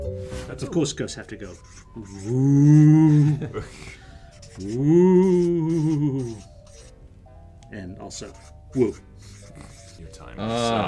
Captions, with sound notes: 'Cause of course ghosts have to go OOOOH. >> [LAUGH] >> Wooo, and also, woo. >> Your time is up.